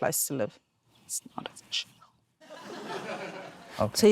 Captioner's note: laughter